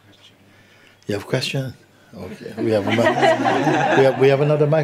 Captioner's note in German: Lachen